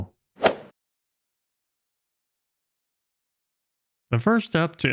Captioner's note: golf swing sound effect